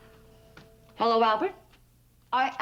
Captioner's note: sternly